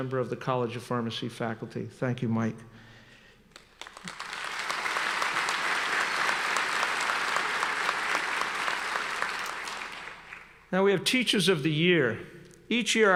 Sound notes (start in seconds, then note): 3.5 applauding